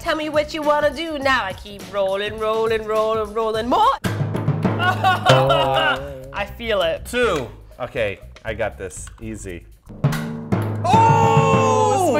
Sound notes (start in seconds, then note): 0.3 singing; 4.9 whines; 5.2 dramatic drum sound effect; 10.0 dramatic drum sound effect